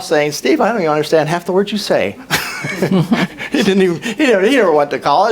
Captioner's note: laughs